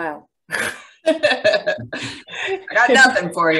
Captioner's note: laughs